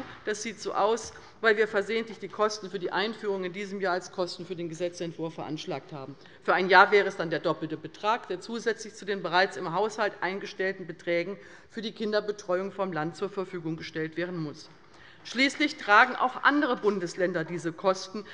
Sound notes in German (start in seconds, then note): none